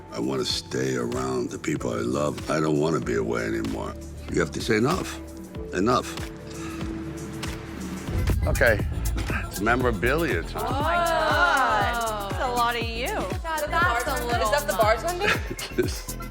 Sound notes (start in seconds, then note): 10.7 women In Unison; 15.1 Sylvester laughing